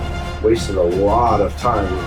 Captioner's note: crowd Noises